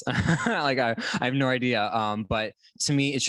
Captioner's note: laughter